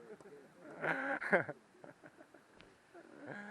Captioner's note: laugh